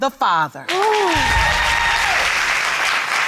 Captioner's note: audience applauding